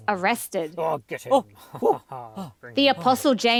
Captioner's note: voices